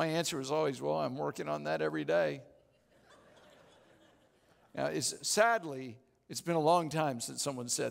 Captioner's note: audience Laughing